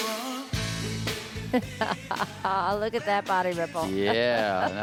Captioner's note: laughing